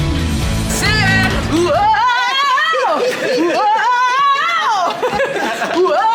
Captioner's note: upbeat bright music; laughing